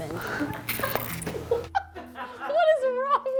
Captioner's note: squishing sound; crew laughing